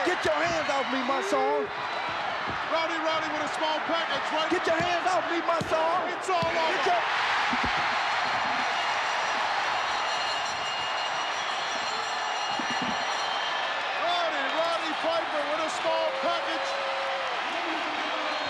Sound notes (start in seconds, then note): 7.7 audience cheering; 9.0 bell chimes